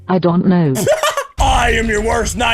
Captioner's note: laughter :3